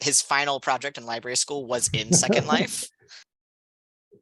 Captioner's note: laughter